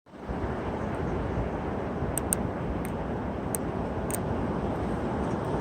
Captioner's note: wind Howling